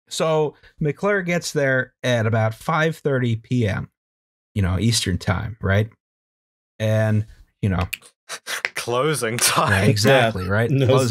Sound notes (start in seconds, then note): 6.0 worker voice; 9.4 laughter